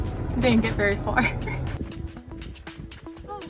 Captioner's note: laughs